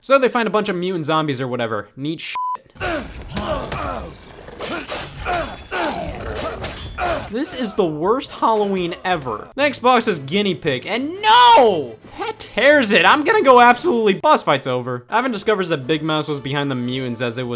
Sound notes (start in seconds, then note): 2.3 beep; 2.7 Ivan grunts; 4.6 sword clashing